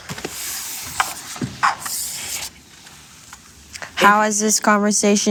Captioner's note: cards scratch across table